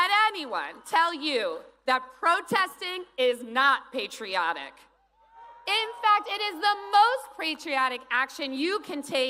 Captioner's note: cheers and applause